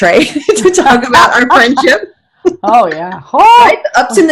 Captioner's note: laughing